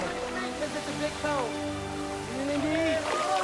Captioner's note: men talking happily